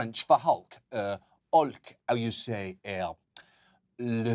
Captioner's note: in french accent